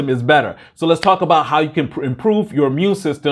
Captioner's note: claps